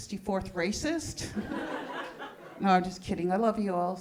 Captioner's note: audience laughing